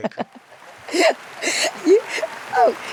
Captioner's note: Marguerite laughing; audience applauding